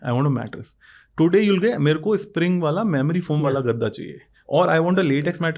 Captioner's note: speaks in Hindi